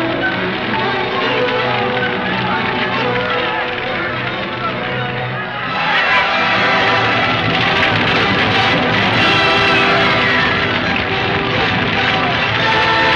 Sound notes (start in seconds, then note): 0.1 fire crackling; 7.1 dramatic music; 7.1 shouting